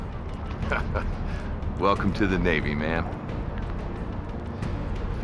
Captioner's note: laughs